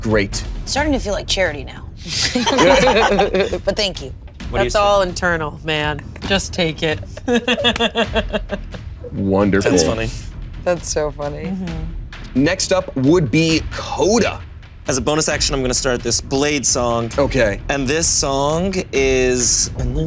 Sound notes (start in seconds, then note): 2.0 all laughing; 7.0 giggling